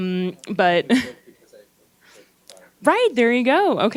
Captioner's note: gentle speaking